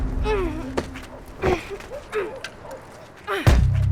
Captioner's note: grunts